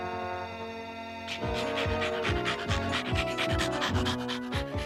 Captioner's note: panting